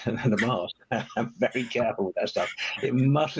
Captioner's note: laughing